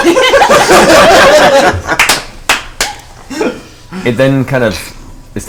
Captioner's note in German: Gelächter